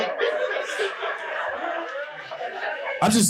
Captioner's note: audience laughing